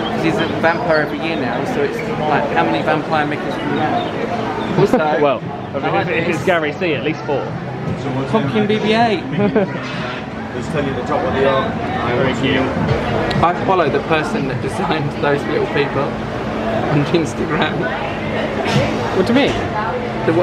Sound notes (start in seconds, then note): 9.2 laughs